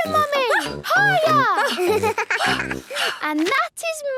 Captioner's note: giggles; panting